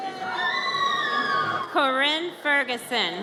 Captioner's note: audience cheers